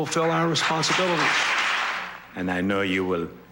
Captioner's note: applause